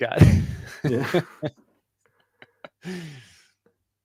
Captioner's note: laughter